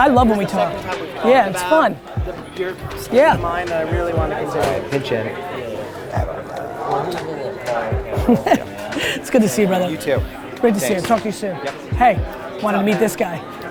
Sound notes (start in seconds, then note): 8.0 Gary laughs